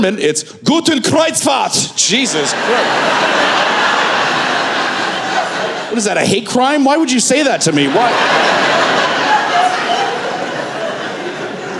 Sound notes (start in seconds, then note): 3.7 laughter